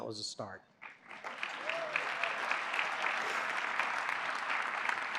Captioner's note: applause